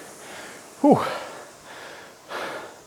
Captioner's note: exhales